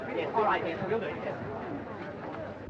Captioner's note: none